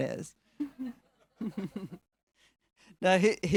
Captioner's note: audience laughing